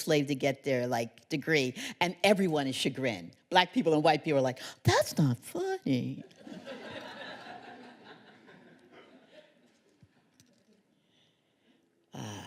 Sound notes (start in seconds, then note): 6.3 laughter